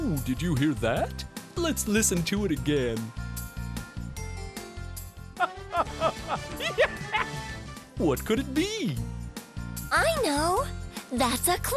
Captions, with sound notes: LET'S LISTEN TO IT AGAIN. (laughs) WHAT COULD IT BE? I KNOW, THAT'S A CLOWN LAUGHING.